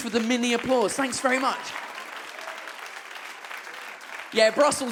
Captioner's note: audience claps